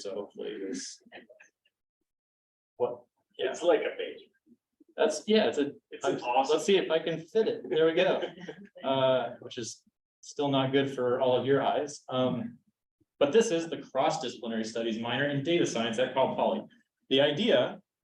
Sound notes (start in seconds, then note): 1.1 chuckling; 7.5 chuckles